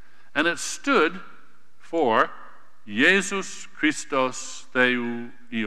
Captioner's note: speaking greek